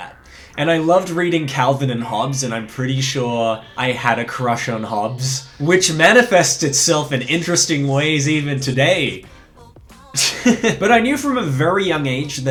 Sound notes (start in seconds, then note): 9.9 laughs